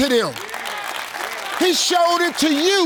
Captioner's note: audience clapping